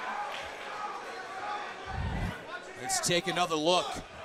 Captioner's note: crowd chatter